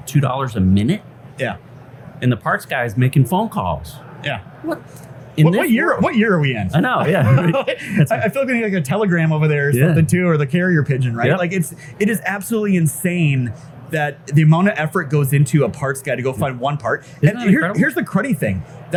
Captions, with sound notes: two dollars a minute? - Yeah. - And the parts guy is making phone calls. - Yeah. What year are we in? - I know, yeah. (laughs) - I feel like we need like a telegram over there or something too, or the carrier pigeon, right? Like it's, it is absolutely insane that the amount of effort goes into a parts, gotta go find one part. Here's the cruddy thing;